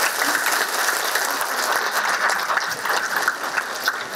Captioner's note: audience applause